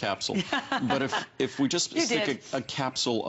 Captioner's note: laughter